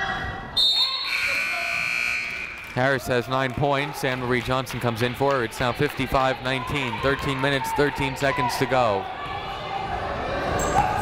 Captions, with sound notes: (buzzer) Harris has 9 points, Annmarie Johnson comes in for her, it's now 55-19, 13 minutes 13 seconds to go, Blanco.